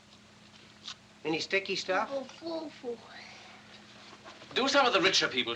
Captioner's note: Todd Muttering